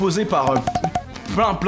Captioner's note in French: pop pop pop